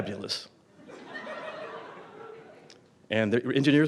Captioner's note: audience Laughter